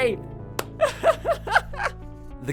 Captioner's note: laughing